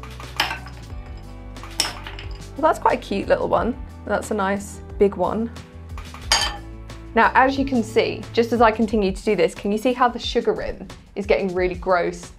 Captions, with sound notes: (ice hitting glass) Well that's quite a cute little one. That's a nice big one. (ice hitting glass) Now as you can see, just as I continue to do this, can you see how the sugar rim is getting really gross